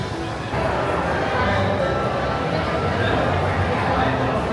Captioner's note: restaurant ambience